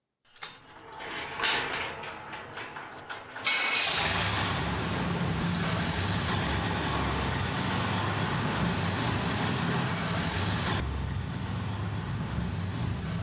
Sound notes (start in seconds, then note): 2.3 metal rolling; 5.3 car engine starting